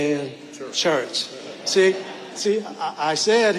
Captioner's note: audience laughing